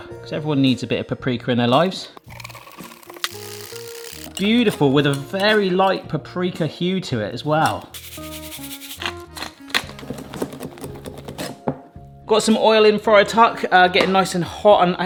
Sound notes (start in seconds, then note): 2.2 whisk whirring; 7.5 condiment rattling; 8.8 grinder cracking; 10.2 whisk thudding